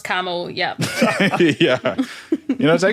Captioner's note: laughs